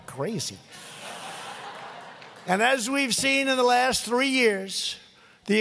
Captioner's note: laughter